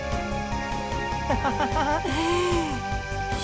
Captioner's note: laugh